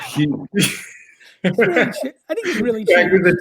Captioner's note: all laughing